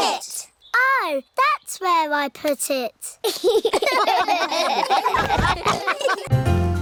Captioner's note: all laugh